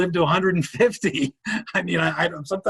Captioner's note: laughing